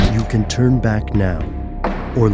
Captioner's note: intense horror music; voiceover